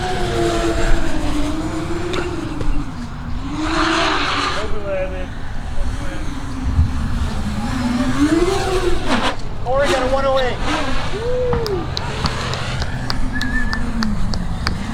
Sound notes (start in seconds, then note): 11.1 claps and Whistles